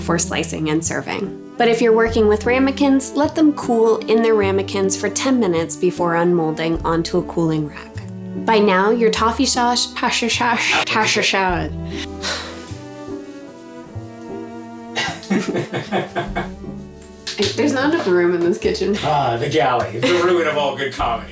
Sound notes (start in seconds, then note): 14.9 sighs; 20.0 cameraOp laughing